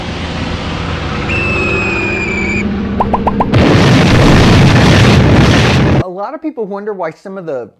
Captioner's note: bomber flying, bomb whistling, bomb exploding